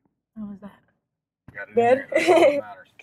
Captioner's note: laughs